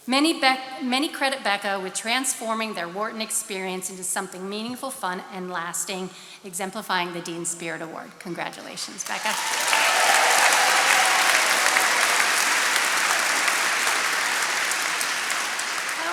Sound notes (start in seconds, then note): 9.0 attendees cheering and applauding